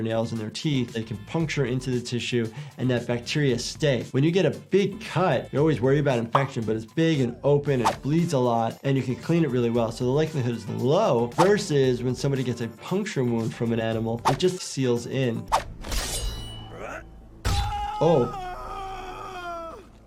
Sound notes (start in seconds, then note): 15.8 sword clanging; 17.5 Green Lantern screaming